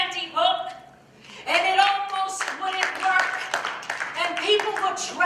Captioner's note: applause